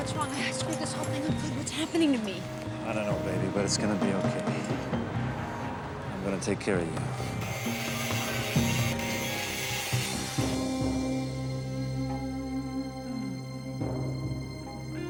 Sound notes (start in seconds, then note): 6.9 tool buzzing; 12.0 suspenseful music